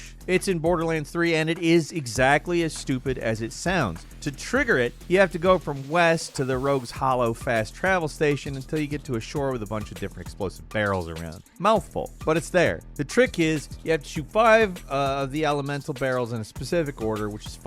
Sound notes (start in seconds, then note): none